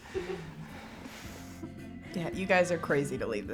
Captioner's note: laughing